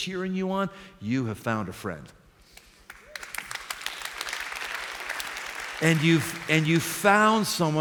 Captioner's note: applause